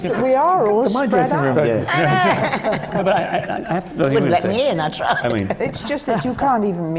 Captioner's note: laughter; laughs